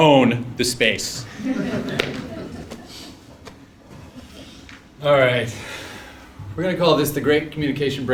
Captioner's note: laugh